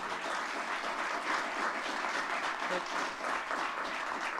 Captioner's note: audience clapping